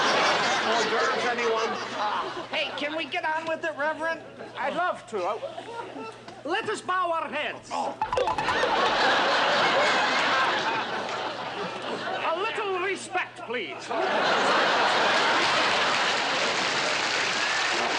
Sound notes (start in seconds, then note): 8.0 heads clonking together; 8.5 laughter; 13.8 laughter